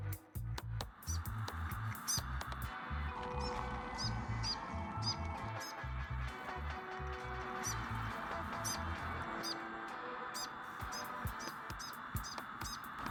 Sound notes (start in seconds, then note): 1.1 bird chirping; 1.1 upbeat music